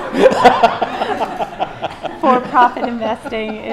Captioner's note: laughter